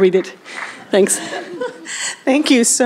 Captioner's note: laughter